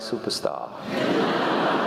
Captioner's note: laugh